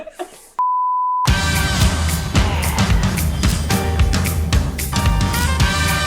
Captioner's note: laughs; color bars beeping; upbeat music